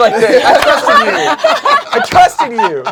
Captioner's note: everyone laughs